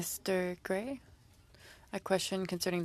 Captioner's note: speaking French